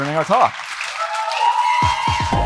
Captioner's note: applause